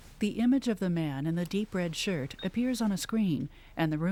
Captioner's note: device Beeps